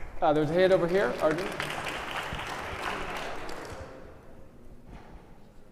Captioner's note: audience applauding